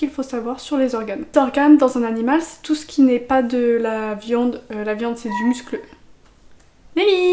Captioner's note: meow